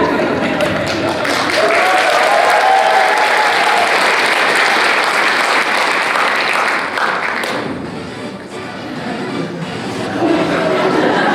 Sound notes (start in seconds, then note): 0.6 applause